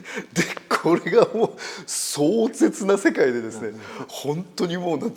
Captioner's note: laugh